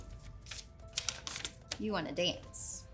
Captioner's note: paper rustling